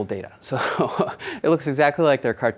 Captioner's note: laughs